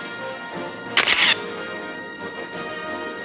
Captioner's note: camera shatters; orchestral music